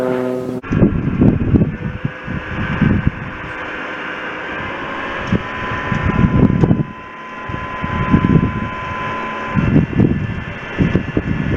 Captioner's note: tractor and compost turner whirring